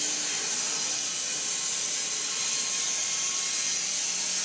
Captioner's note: mill whirring